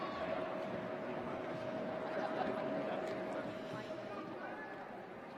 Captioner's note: chatter